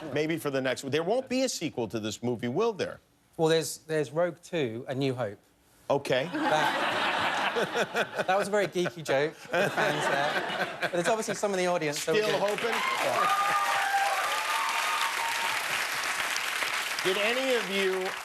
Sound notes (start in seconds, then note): 8.0 laughter; 12.2 cheers and applause